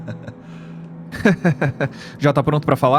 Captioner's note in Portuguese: risada; risada ironica